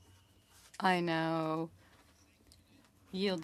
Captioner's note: speaking French